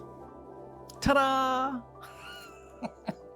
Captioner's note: laughs